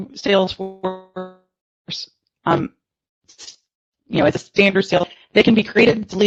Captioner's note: audio distortion